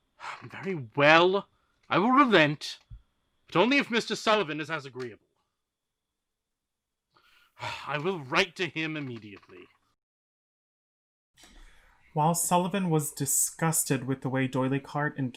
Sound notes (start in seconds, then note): 0.2 huff; 7.2 sigh